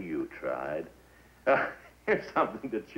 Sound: laughs

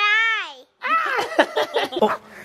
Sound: all laughing

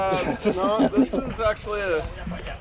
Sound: laughing

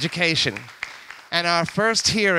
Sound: audience applauds

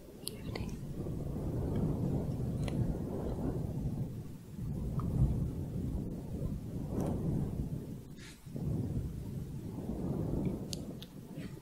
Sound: windy sounds

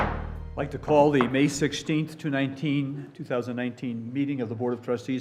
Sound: gavel bangs

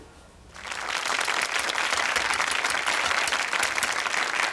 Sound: audience applause

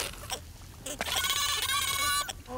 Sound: squawking

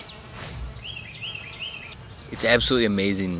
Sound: bees buzzing

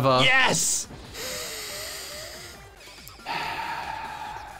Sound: inhales sharply; exhales sharply

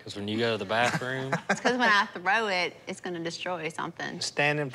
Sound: laughing

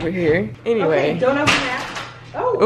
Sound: crashing sound

